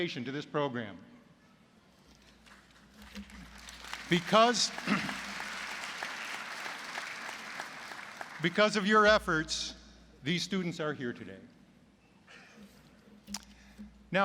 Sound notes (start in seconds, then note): 2.4 applause